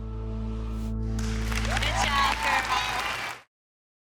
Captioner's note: audience applauding